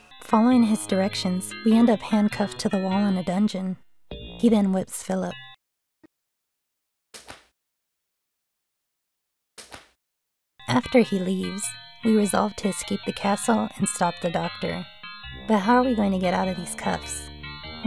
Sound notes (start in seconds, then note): 6.3 whipping Sounds